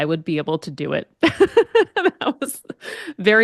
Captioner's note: laughs